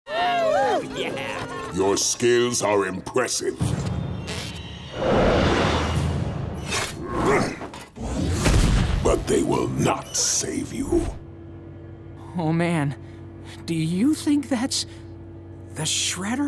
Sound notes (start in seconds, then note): 0.0 cheering